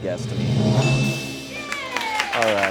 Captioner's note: bell chimes